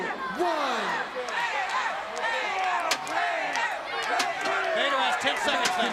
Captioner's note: crowd cheering